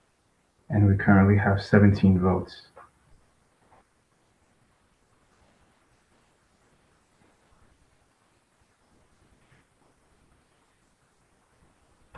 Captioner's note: pause